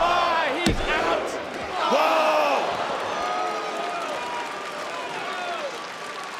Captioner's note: audience applauds and cheers